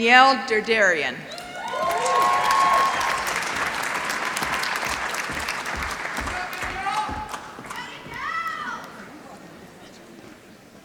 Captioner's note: applause